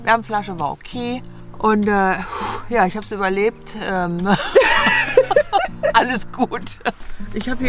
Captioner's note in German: beide lachen